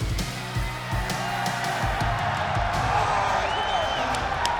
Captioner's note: crowd cheering